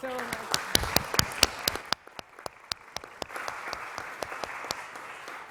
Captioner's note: audience clapping